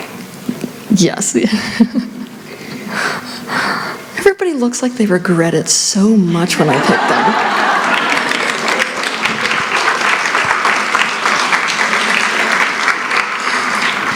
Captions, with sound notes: Yes. [ Giggles ] Everybody looks like they regret it so much when I pick them. [ Applause ]